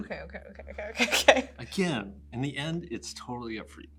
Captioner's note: chuckles